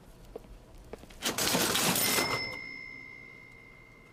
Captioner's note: cash register rings